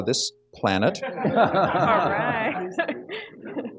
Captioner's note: laughter